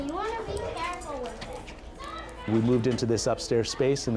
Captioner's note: kids chattering